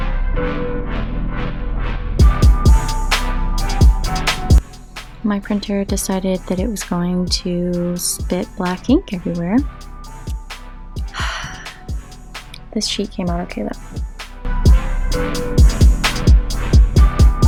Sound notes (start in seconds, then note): 11.1 frustrated sigh